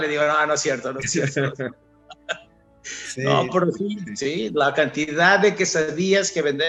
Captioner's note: laughs